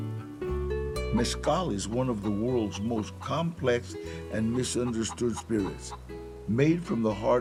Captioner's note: in English